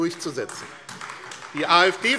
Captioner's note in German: Beifall AfD - Zurufe